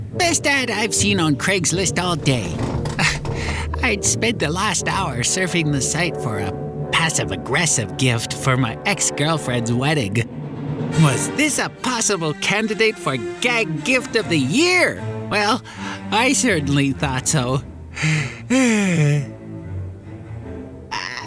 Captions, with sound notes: Best ad i've seen on Craigslist all day! I'd spent the last hour surfing the site for a passive-aggressive gift for my ex-girlfriends wedding. Was this a possible candidate for gag gift of the year? Well I certainly thought so! (sigh...nerdish, but a sigh)